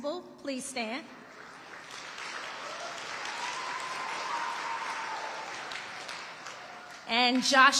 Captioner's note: audience applauding and cheering